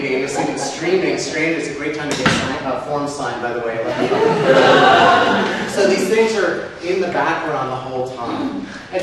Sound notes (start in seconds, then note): 3.8 audience laughs